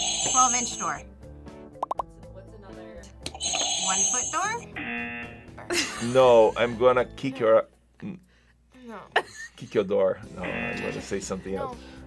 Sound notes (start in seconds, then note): 0.0 buzzer rings; 3.4 buzzer rings; 4.8 buzzer